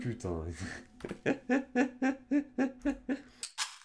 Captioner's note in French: Rires